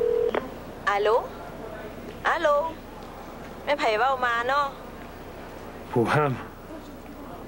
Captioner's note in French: Téléphone